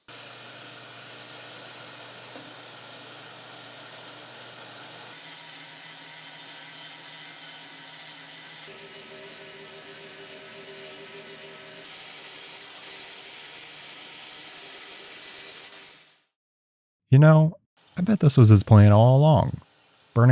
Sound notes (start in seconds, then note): 0.3 machine whirring; 5.2 blade buzzing